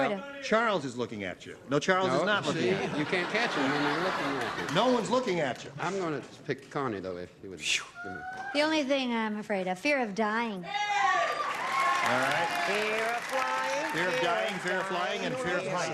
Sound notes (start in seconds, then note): 10.7 cheering; 13.4 singing